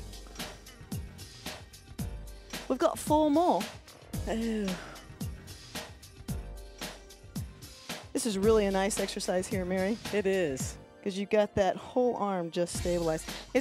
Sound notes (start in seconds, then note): 0.1 gentle music; 4.2 sighs